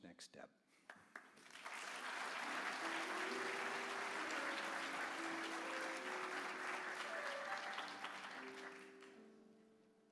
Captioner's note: applause